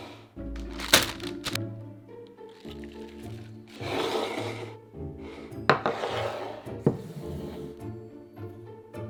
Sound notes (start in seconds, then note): 0.5 bag crinkling